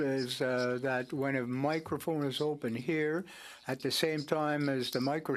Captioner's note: speaking French